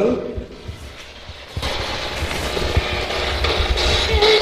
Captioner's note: static buzzing